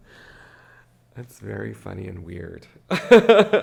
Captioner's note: laughs